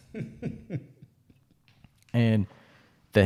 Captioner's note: chuckles